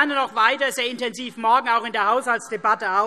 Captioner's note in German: none